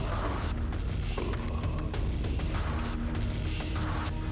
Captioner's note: creature groaning; mellow upbeat music